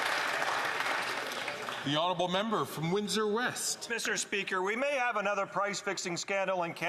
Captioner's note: some Applause